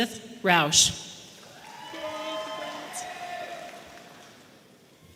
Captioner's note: audience applauding